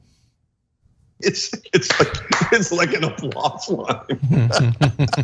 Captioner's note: laugh